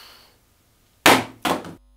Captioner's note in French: bruit du téléphone qui tombe